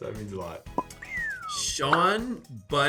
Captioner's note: Sean whistles